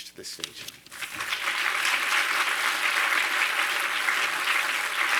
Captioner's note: audience applauding